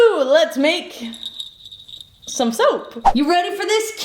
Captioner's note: bells jingling